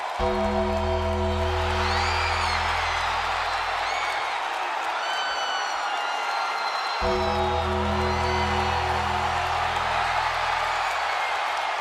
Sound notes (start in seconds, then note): 0.0 ominous music; 1.7 audience cheers